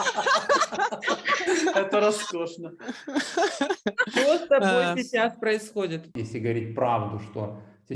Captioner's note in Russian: смех